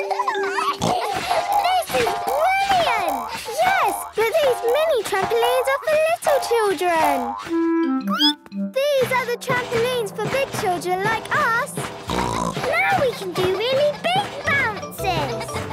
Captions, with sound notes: (giggles, snorts) - This is brilliant! - Yes! But these mini trampolines are for little children. (squeaks) These are the trampolines for big children like us! (snorts) - Now we can do really big bounces!